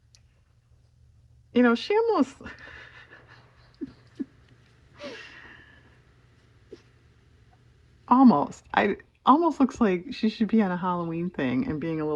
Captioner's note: laughs